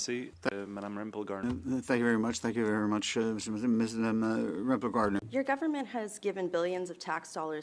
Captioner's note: speaking French